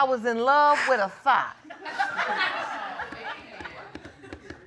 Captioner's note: laughter